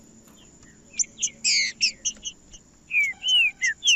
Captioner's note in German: trinca ferro cantando